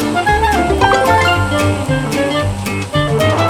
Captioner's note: notification